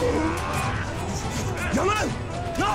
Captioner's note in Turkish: Çarpışma sesleri